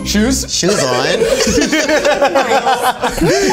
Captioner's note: all laughing